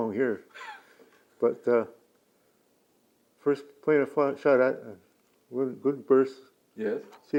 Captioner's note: laughs